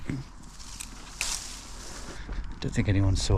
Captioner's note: leaves rustling